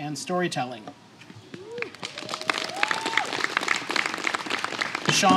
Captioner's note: applause